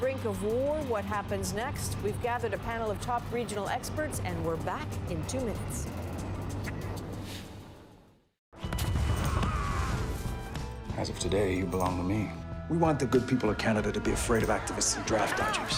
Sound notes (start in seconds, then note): 8.7 explosion